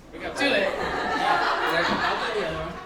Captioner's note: audience laughs